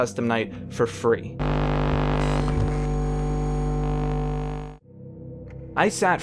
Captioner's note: electronic hum